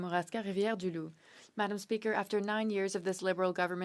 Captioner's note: speaking French